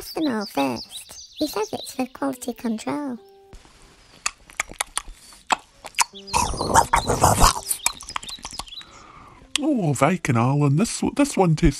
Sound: munching sounds

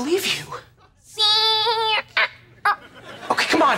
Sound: babbling

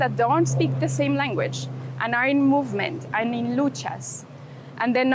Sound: airplane flying overhead

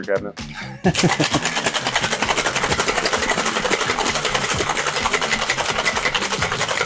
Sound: laughs

